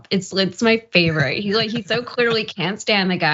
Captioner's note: laugh